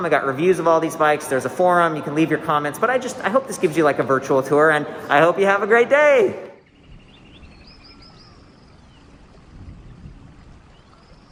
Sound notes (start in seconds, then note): 6.6 birds singing